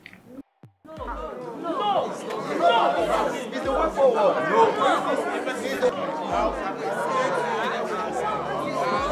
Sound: distinct chatter

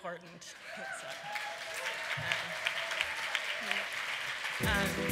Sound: applause

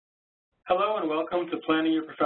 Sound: voiceover

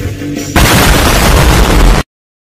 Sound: explosion

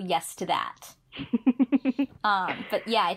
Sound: laughs

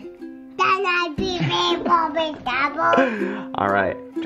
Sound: babbles

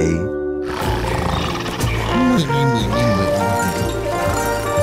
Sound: snoring

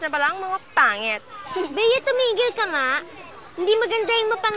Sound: laughter

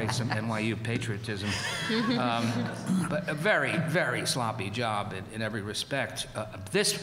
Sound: laughter

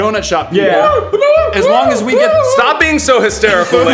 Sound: wooing

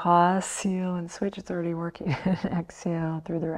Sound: chuckles

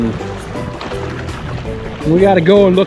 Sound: water splashing

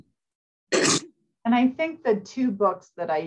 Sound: coughing

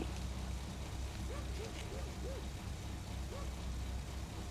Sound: dog barking

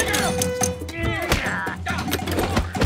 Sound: both grunt

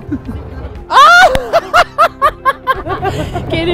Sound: cracks up

